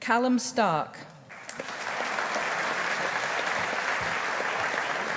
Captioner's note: audience applauding